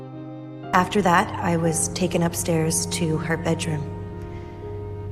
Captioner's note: voiceover